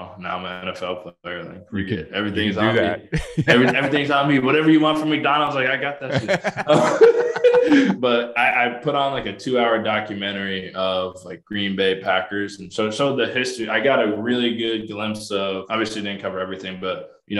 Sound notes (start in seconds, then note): 2.2 laughing; 6.0 both laughing